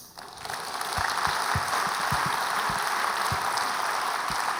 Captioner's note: audience clapping